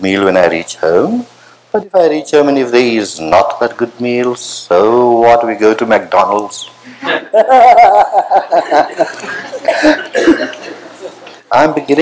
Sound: laughter

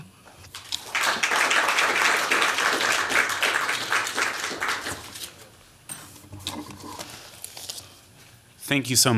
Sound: applause

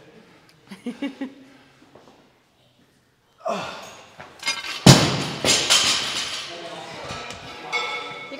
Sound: laugh

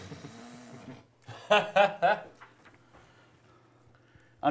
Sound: laughing

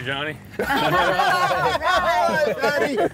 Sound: all laughing

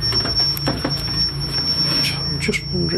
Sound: beeping

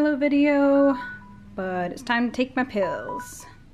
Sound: alarm ringing

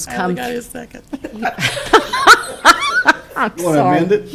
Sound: laughing

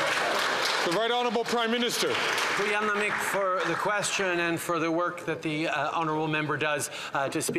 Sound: some Applause

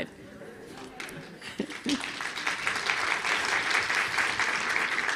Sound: audience clapping

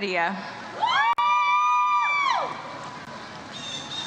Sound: audience cheers

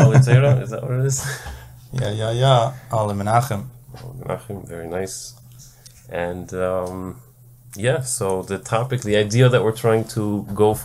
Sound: laugh

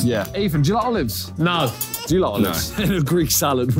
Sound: baby crying

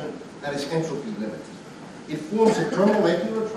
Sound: student coughing

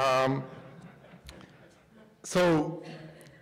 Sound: laughter

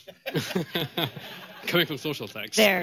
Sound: laughter

